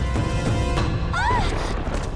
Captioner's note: screaming